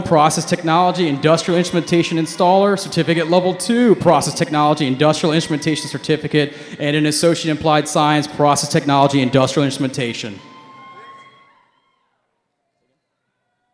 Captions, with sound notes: Process Technology, Industrial Instrumentation Installer, Certificate Level Two, Process Technology, Industrial Instrumentation Certificate. and an Associate in Applied Science, Process Technology Industrial Instrumentation. (cheering)